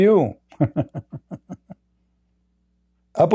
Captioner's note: Ketawa